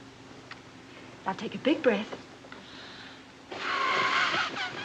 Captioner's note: kisses